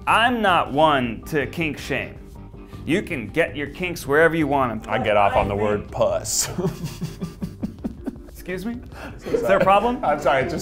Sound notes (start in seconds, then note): 7.6 laughs